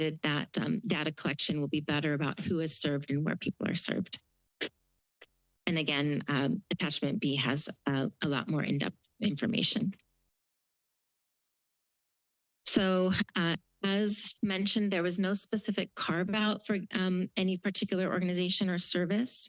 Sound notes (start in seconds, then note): none